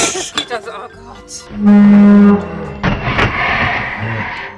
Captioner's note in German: Verzerrte Töne